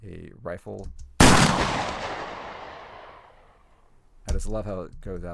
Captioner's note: gun fires